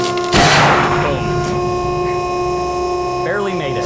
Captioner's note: sling pops